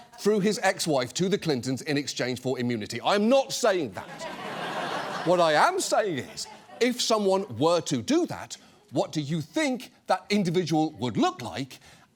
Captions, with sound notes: through his ex-wife to the Clintons in exchange for immunity. I am not saying that. (AUDIENCE LAUGHS) What I am saying is, if someone were to do that, what do you think that individual would look like?